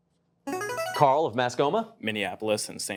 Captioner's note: buzzer chimes